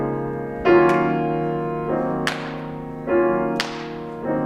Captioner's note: clapping